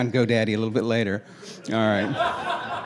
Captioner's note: laughing